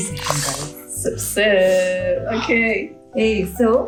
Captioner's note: sip sip